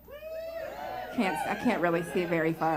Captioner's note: woos from the crowd